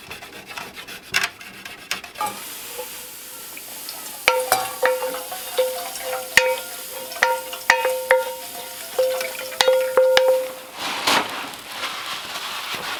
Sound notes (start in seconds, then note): 4.8 metal clanging